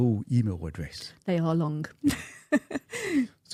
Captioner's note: chuckles